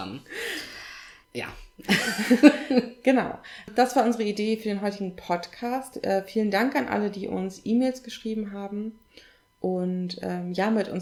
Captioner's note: laughs